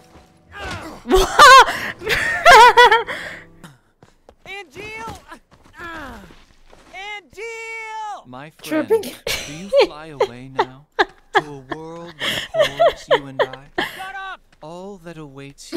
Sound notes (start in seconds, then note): 1.0 surprised laughing; 8.8 laughing